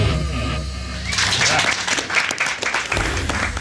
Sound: clapping

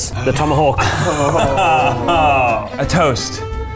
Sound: all laughing

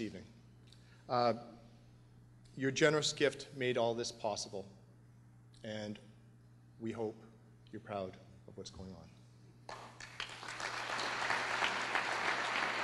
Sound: applause

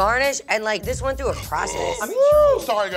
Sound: burps

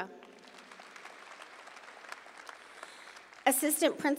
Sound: audience applauding

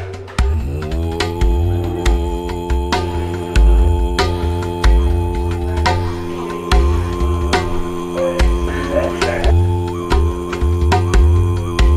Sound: buzzing; drums beating

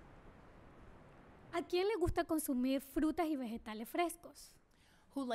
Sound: speaking spanish

